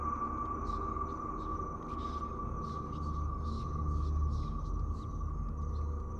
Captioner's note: ghostly voices whispering